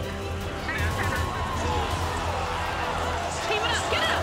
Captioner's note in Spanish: aplausos